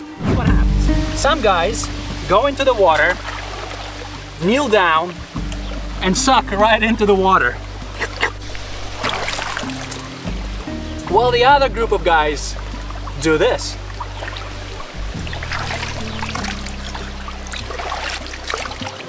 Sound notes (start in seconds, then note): 7.6 slurping; 15.4 water splashing